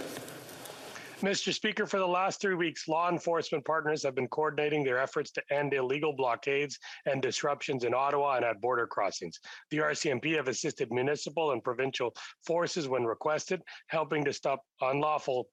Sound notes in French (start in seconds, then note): 6.1 voix de l'interprète